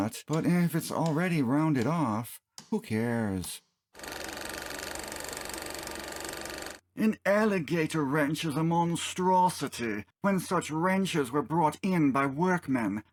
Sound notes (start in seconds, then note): 4.0 projector sounds